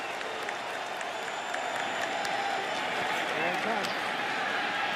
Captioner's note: cheering